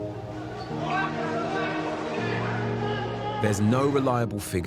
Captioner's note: men yelling